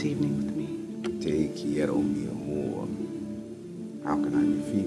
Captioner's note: man speaks foreign language